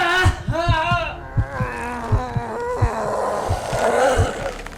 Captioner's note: Terry groaning; Terry growling; brooding music continues